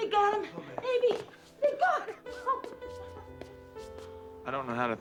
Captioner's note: laughing